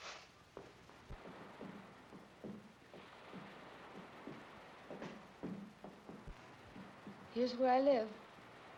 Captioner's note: pair's footsteps; sound of ocean